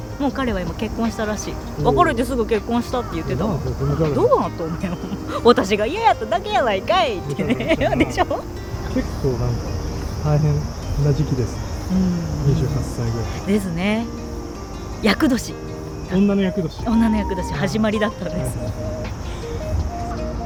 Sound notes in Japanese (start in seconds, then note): 8.0 笑い